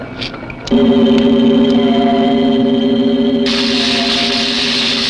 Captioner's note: machinery buzzing; electric fizzling